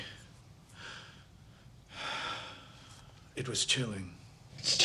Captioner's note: sighs